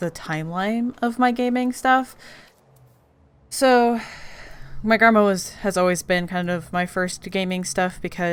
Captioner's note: none